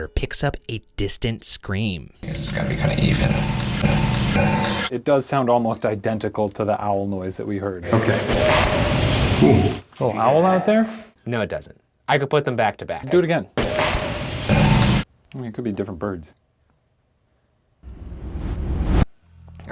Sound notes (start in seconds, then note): 2.2 faint whine; 8.3 owl hoots; 13.6 faint whine